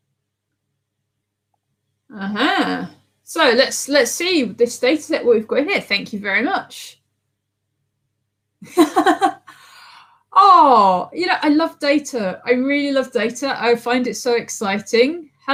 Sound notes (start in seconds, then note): 8.7 laughing